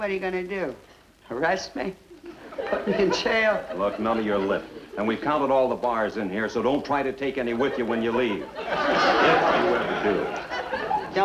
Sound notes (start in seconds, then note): 7.5 audience laughs